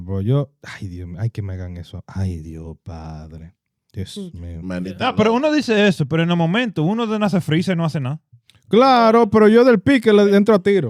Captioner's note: speaking In Foreign Language